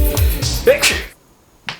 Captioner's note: dad sneeze